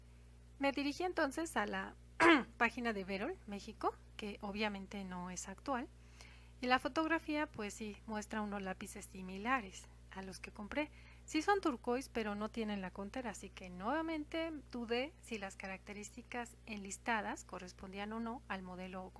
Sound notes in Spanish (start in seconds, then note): 2.2 aclaración de garganta